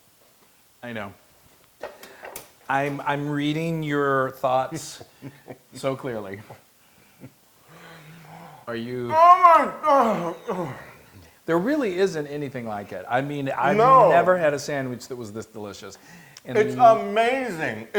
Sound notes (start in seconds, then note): 9.1 laugh